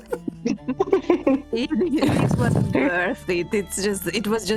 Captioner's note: laughter